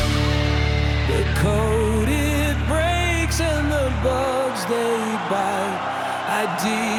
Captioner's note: applause